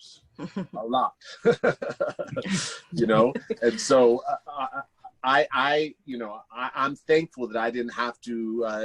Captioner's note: laughs